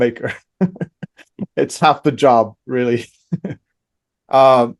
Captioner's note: laughs; laughs